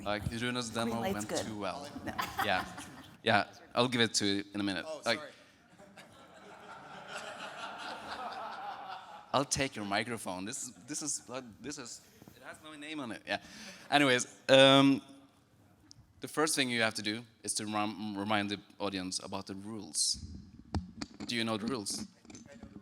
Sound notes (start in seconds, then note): 5.7 speakers laughing